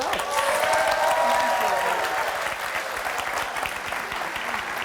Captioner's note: audience cheering